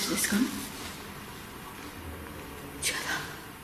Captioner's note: moaning